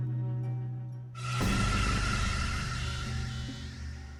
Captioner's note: screeching